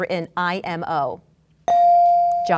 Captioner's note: bell dinging